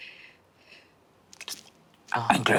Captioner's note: Brennan flicks tongue